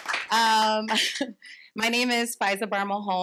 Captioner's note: chuckles